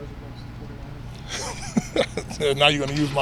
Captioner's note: laughing